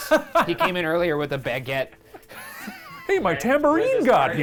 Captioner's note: laughs; wheezes